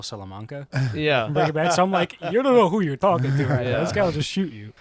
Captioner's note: laughter